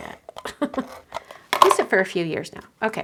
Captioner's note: laughs